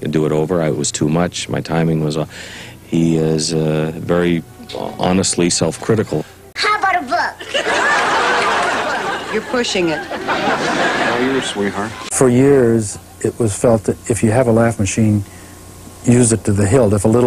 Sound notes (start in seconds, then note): 7.4 laughter